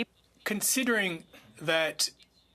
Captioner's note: speaking French